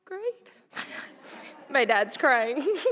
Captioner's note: audience laughing